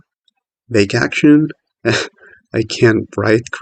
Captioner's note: nervous laughter